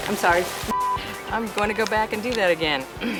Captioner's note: beep